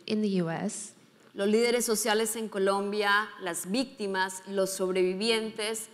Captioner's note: speaking in foreign language